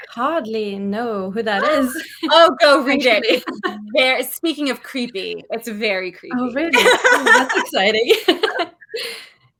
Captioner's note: laughs